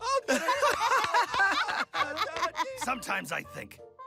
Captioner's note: Mabel and Dipper laughing